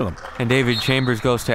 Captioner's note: referee blows whistle